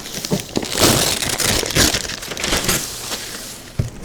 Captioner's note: paper ripping